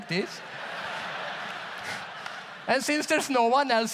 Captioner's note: audience laughs